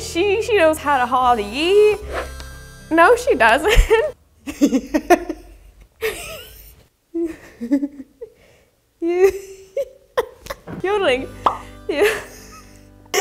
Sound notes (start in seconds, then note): 4.4 laughs; 11.4 bubble pops; 12.0 laughs